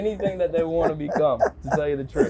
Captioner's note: laughing